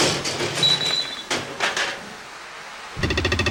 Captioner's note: crash!; boing!